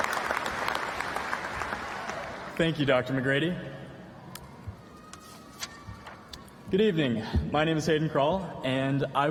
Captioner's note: applause